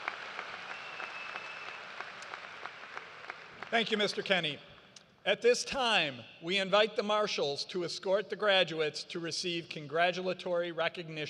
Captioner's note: cheers and applause